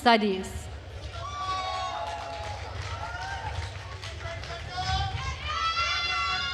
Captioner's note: attendees cheering and applauding